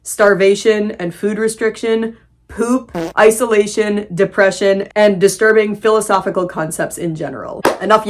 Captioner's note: fart sound